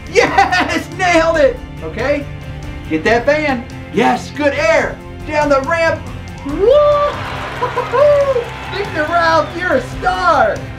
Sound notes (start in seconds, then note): 6.4 audience cheering